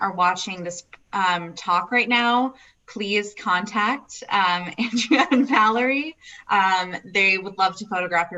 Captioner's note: laughs